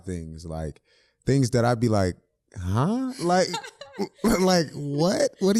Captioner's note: both laughing